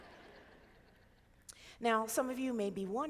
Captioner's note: crowd laughing